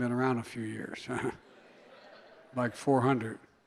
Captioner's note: laughter